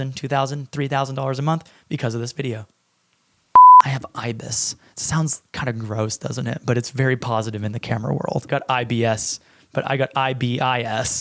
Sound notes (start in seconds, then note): 3.6 camera beeps